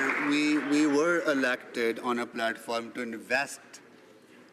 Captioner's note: some Applause